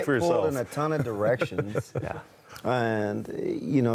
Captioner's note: laughter